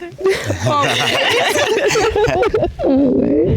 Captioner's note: all laughing